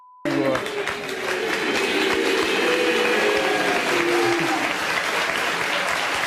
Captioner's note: audience applauding, yelling